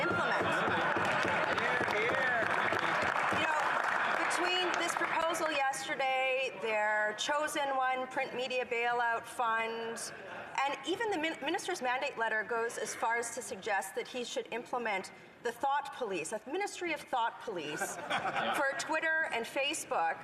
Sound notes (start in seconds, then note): 5.3 some Applause